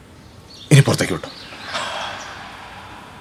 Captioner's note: he Exhales